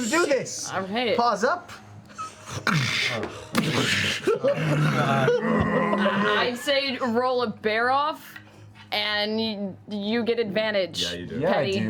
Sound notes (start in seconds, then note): 2.5 collision sounds